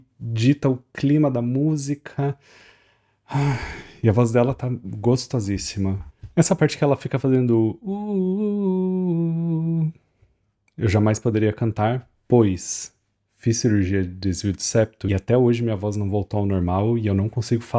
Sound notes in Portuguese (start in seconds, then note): 3.3 suspirando